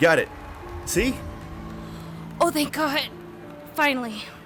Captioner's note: audience applauding